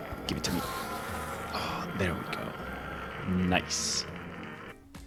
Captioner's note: happy noices